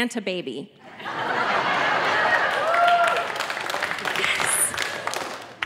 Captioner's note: audience laughing